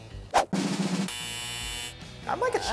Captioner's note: drum roll; buzzer